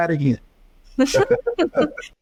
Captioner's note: laughing; laughs